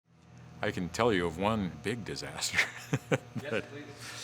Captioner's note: laughs